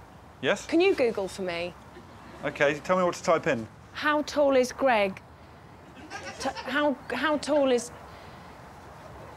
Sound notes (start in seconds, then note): 5.9 audience chuckling